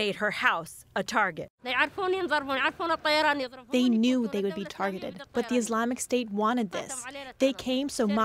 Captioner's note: through translator